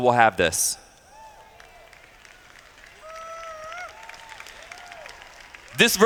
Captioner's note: applause